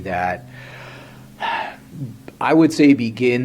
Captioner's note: sighs